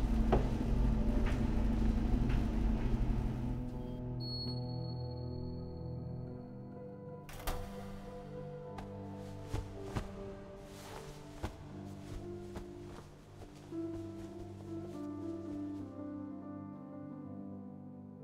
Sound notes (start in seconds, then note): 2.2 slow piano playing; 5.6 washing machine beeps; 7.3 door opens; 10.9 clothes folding